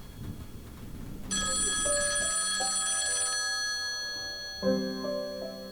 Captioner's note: music plays with the phone ringing